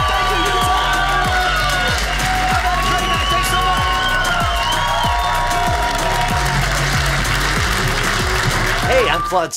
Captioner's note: audience applauding